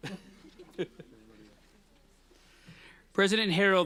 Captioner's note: laughing